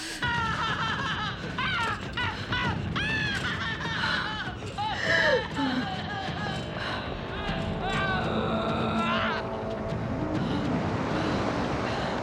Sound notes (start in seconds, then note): 0.2 groaning; 4.7 crying